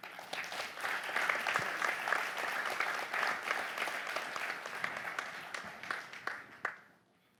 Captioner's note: applause